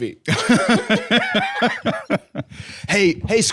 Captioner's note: laughing